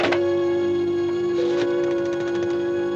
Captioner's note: rotary phone dialing sounds